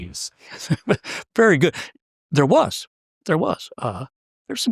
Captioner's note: laugh